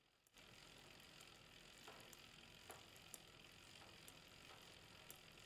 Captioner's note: bicycle wheels clicking